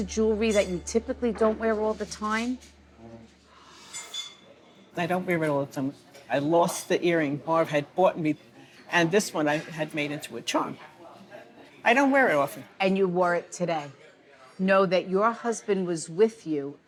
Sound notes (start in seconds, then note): 3.8 dishes clanking